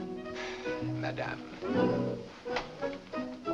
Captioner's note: sigh